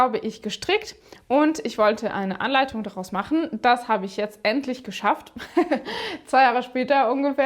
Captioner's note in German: gelächter